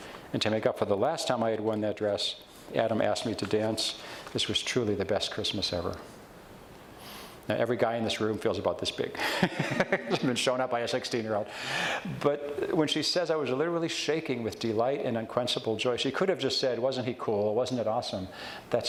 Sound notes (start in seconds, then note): 9.2 laughs